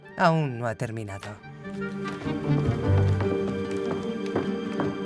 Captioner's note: foot stomps